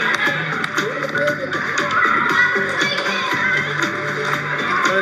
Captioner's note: campers chattering